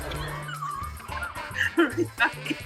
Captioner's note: laughs